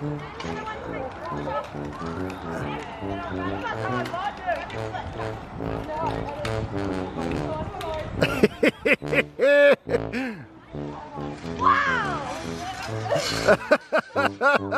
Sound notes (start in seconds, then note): 8.2 laughing